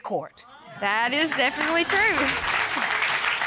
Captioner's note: audience exclaiming; audience applauding